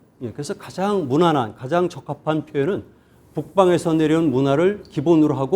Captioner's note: speaking in Korean